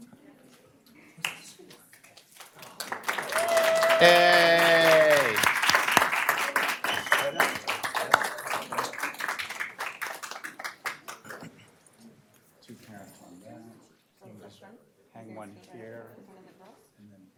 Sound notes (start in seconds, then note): 6.2 applause; 11.3 applause